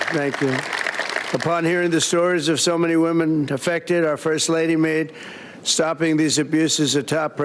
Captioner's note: applause